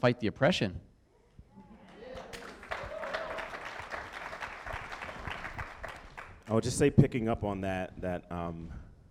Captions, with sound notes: ENERGY, INSTEAD OF FIGHTING OVER WHO GETS TO BE THE OPPRESSOR, LET'S FIGHT THE OPPRESSION. [AUDIENCE REACTS] [Applause]